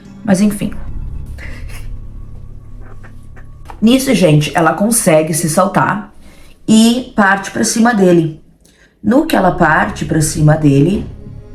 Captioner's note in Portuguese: risos